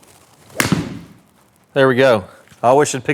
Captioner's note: golf ball pings